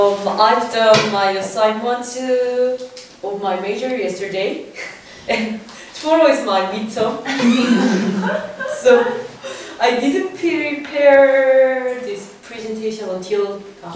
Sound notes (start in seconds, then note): 7.2 laugh